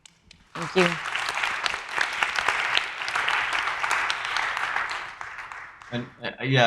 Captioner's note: audience applauding